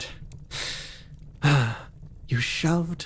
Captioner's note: Etete Sigh